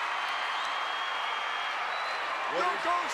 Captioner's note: crowd cheers